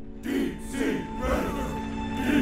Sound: chanting

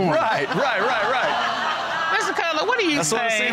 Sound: audience laughing

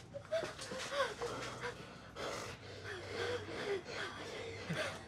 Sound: whimpering

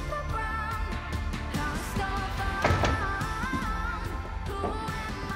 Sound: door closes

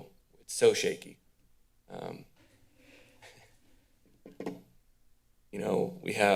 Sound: pause

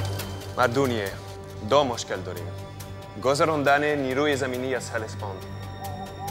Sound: Xerxes speaking in foreign language

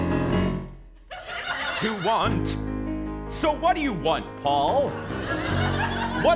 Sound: speaking

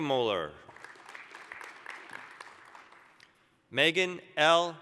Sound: applause

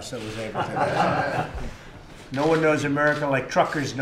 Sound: laughter

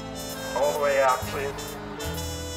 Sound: jazz music playing; announcer through speaker

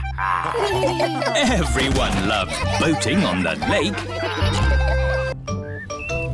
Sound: chuckles; all laugh

